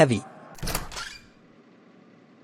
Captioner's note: door opens